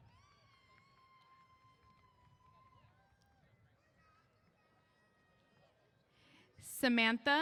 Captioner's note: cheers